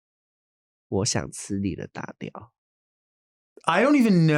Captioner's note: Nymphia speaking in a foreign language